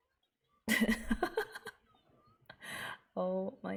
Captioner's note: laughs